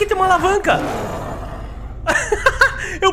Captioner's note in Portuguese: risos